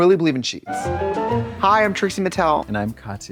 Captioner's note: bright chime